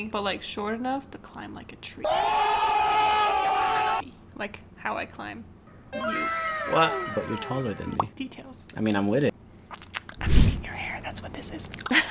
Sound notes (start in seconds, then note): 2.0 screaming